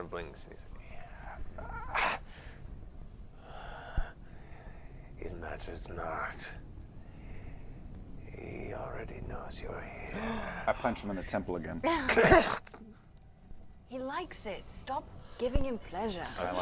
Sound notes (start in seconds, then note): 1.9 grunt